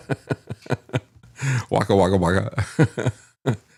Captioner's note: laughs